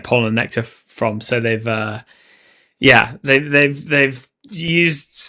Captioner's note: none